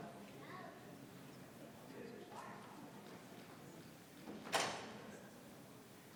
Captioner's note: attendees chattering continues